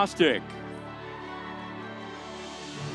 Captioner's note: audience cheering; soft music continues